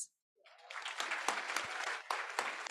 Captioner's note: applause